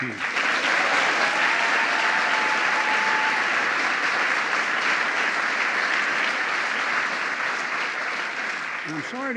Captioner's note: applause